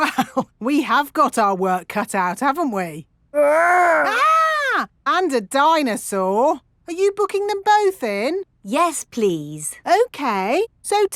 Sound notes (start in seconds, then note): 0.0 chuckling; 3.6 mock screaming